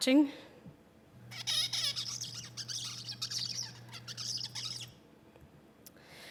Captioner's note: bird singing